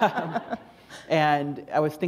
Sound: laughter

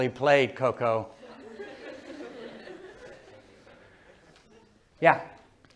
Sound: laughter

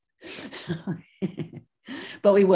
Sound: laughs

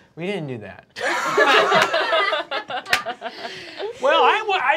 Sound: group laughing

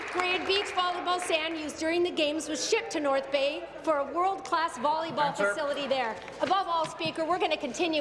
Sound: applause

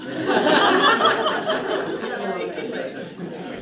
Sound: laughter

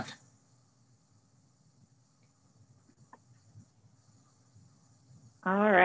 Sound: silence

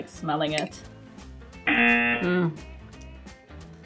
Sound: buzzer rings

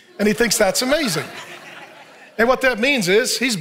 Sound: audience laughing

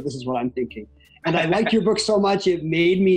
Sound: chuckles

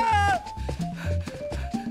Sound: wailing; panting

